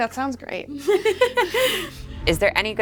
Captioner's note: laughs